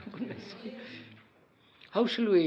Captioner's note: general assent